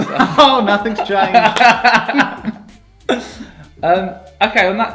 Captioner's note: laughing